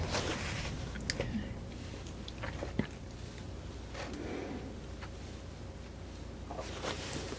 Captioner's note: scratching